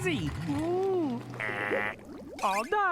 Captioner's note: imitating alarm